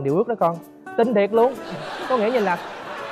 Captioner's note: laughing